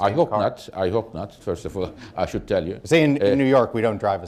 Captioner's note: laughter